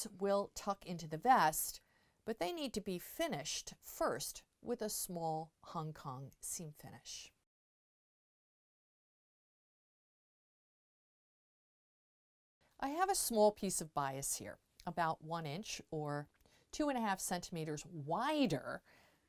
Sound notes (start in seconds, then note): 7.4 no Sound Present